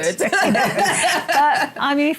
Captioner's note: laughter